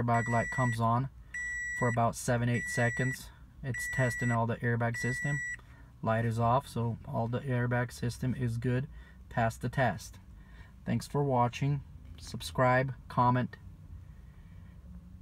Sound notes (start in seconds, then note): 0.0 beep; 3.7 beeping